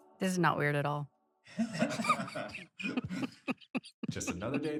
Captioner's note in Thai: ผู้กำกับหัวเราะ